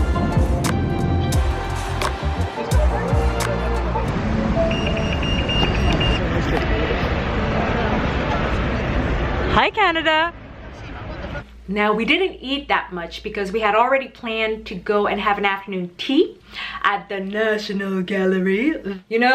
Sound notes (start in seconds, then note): 4.5 sign beeping